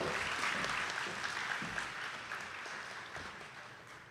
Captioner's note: attendees clapping